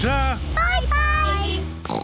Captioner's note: oinks; horn beeps